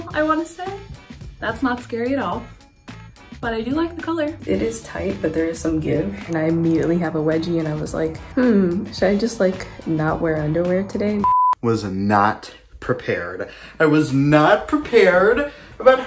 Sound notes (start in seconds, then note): 11.2 beep